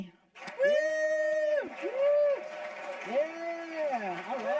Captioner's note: audience applauding